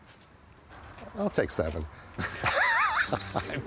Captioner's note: both laugh